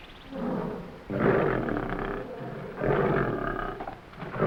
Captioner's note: lion grunting